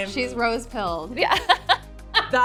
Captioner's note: laughing